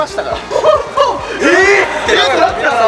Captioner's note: chuckles